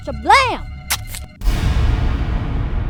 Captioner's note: knife slices; intense music